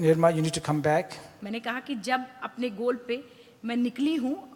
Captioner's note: speaks foreign language